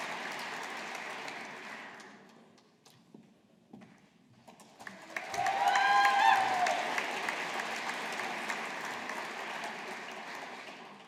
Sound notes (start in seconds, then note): 4.8 audience applauding